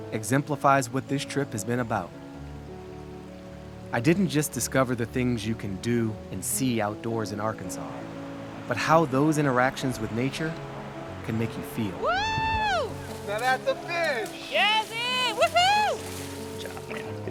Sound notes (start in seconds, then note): 12.0 mentor cheering